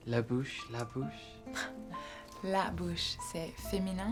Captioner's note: giggles